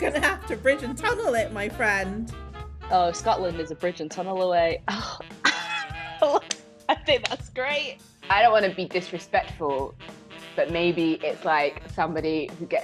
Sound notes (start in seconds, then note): 5.4 laughing